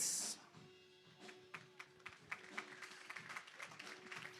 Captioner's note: applause